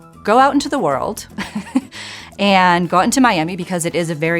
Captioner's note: chuckling